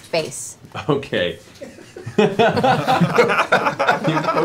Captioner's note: laughter